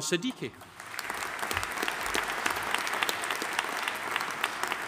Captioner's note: audience applauding